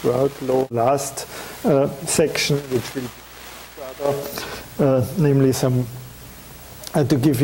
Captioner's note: audio static